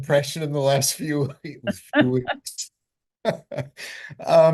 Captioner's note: both laughing